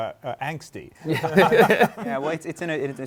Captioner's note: laughter